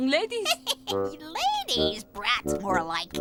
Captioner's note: witch chuckles